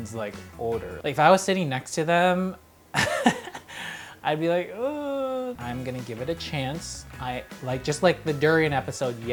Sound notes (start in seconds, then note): 2.9 laughing